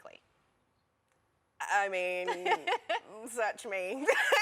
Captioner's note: laughter